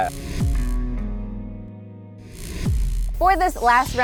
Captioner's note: neon sign buzzes